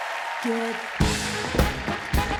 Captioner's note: applause